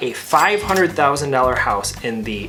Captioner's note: cash register dings